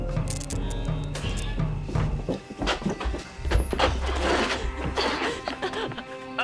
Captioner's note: suspenseful music; light buzzing